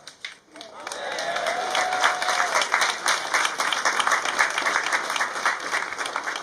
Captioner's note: applause